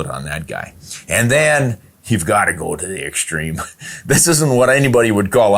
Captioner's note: chuckles